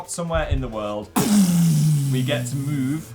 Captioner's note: explosive mouth effect